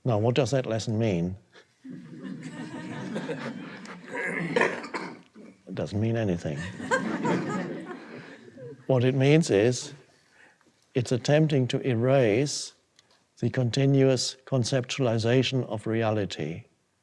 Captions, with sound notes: Now what does that lesson mean? (audience laughing) (Eckhart chuckles) It doesn't mean anything. What it means is it's attempting to erase the continuous conceptualization of reality